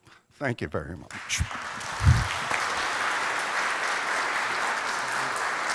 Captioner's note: applause